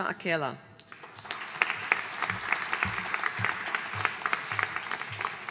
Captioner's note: audience applauding